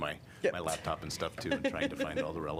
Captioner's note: laughter